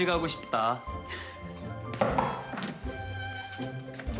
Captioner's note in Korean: 노크 소리